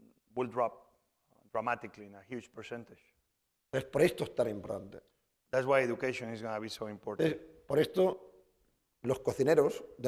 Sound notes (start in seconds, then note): 4.1 speaking spanish; 8.5 speaking spanish